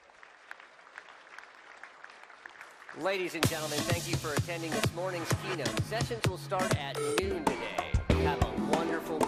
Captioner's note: applause